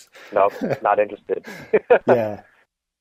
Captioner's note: laugh